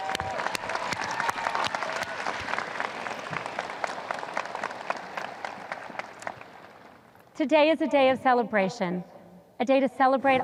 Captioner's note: audience cheers